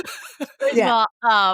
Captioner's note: laughing